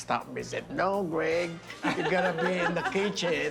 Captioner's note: laughter